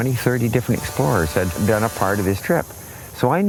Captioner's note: tug horn